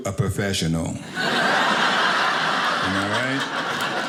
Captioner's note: audience laughing